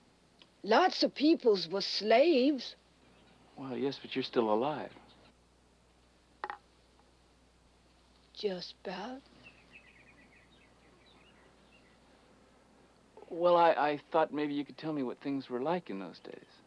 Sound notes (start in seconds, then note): 9.2 birds tweeting